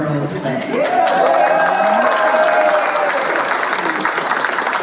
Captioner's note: cheers and applause